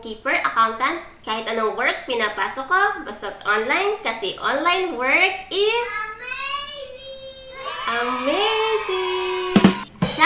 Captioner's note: kid's voice